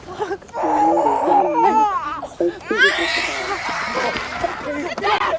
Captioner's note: baby wailing